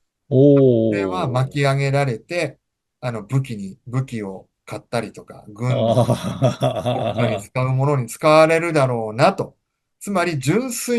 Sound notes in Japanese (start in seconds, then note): 5.6 笑い